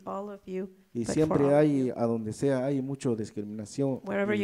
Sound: speaks in foreign language

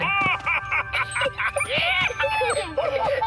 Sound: excited laughter

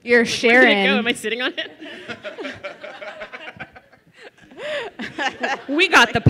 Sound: laughing

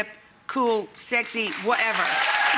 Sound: audience clapping; audience cheering

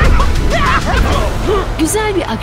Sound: laughter

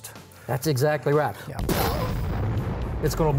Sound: exploding sound

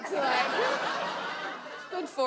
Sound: audience laughs

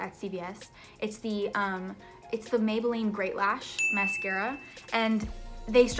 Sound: bell dings

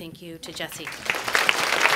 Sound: clapping

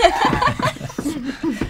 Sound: laughter

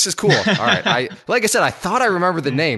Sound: laughs

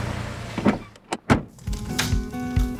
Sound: car door closing; door opening

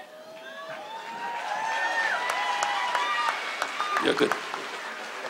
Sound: audience cheers

